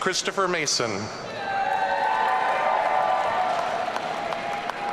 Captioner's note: audience cheering